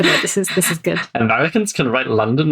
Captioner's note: laughs